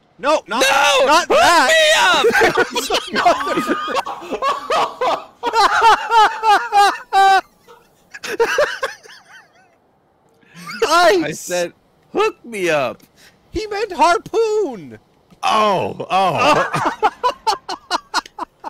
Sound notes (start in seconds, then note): 1.7 group laughter; 16.3 laughter